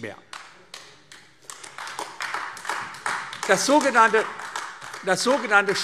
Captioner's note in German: Beifall AfD